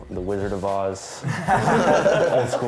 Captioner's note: laughter